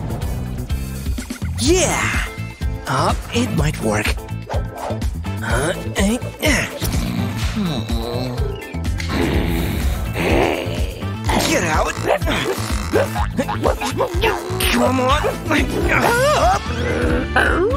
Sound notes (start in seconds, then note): 1.5 groans; 6.6 roaring; 6.8 snoring; 11.7 barks